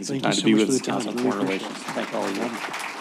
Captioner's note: applause